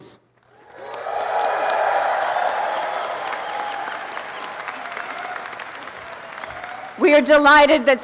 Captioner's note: applause and cheering